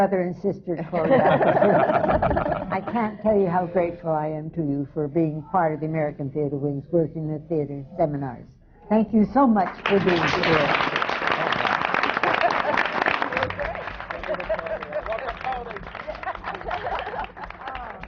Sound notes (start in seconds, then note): 0.9 laugh; 12.3 applause